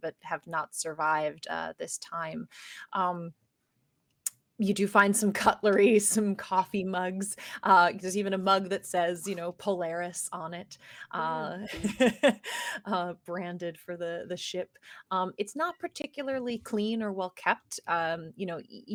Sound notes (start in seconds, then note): 11.6 laughs